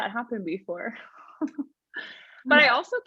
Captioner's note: laughing